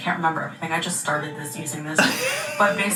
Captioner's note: laughs